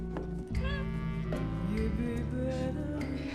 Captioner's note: cat mews